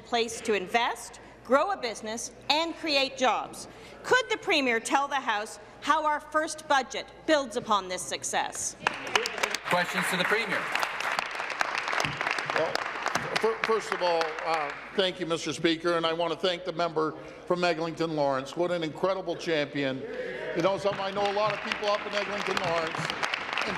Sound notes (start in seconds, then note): 11.3 applause